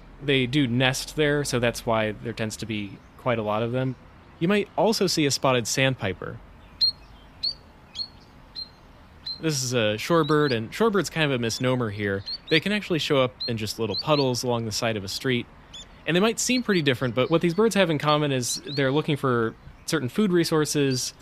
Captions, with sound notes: They do nest there, so that's why there tends to be quite a lot of them. You might also see a Spotted Sandpiper. [Spotted Sandpiper call] This is a shorebird, and "shorebird" is kind of a misnomer here. They can actually show up in just little puddles, along the side of a street. And they might seem pretty different, but what these birds have in common is they're looking for certain food resources